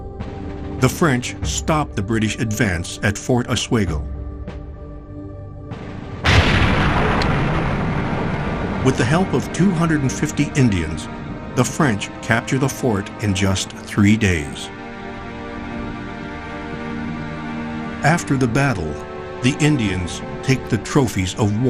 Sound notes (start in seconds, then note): 6.2 gun bangs